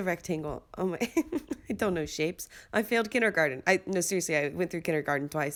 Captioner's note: laughs